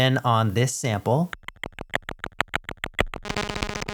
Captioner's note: clicking sounds